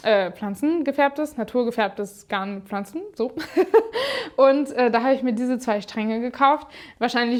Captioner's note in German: gelächter